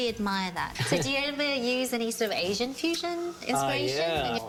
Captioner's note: chuckles